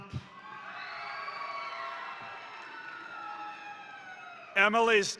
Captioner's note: crowd cheering; crowd applauding